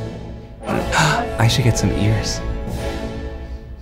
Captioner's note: gasps